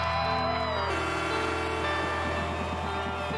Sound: buzzer

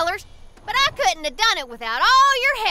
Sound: none

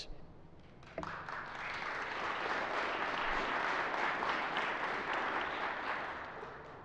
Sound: applause

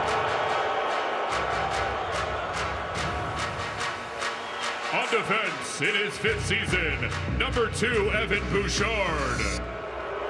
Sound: crowd noise

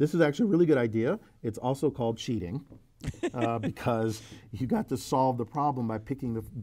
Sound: laugh

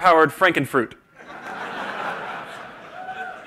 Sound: laughter

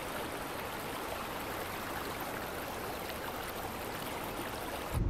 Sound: water running

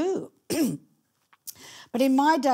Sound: clearing throat

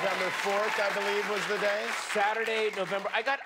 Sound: cheers and applause

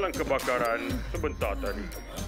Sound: gasping for air

